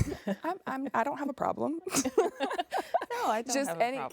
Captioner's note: laughs